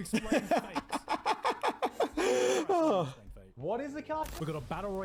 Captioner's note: laughing